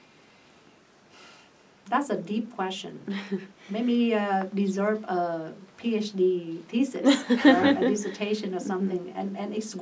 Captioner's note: all laugh